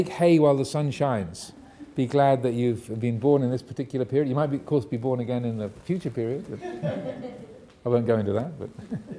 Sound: audience laughing

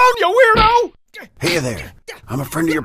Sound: punches smacking

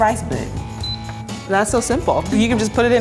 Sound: beep

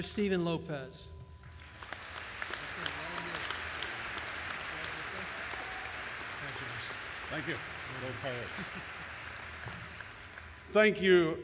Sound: applause and inaudible background talking

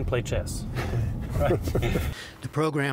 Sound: laughter

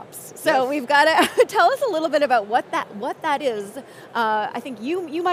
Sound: chuckles

